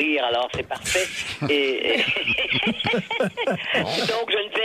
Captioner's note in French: rires